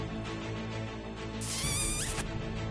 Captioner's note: smooch